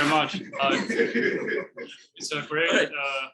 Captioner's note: people laughing